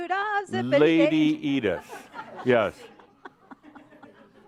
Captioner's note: some chuckles